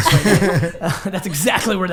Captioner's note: laughing